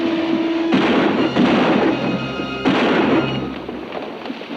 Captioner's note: gun bangs